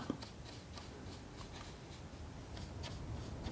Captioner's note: scratching